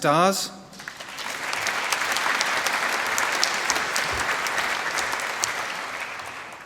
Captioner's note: applause